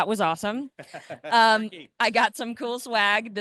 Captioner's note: laughs